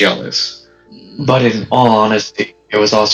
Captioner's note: grrrr